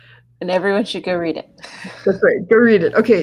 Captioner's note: laughs